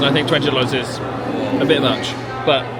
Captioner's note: none